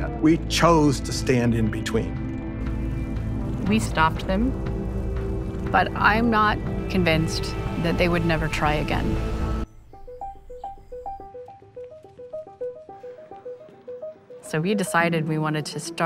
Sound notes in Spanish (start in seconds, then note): 9.6 música animada; 11.2 sonido de pasos, murmullos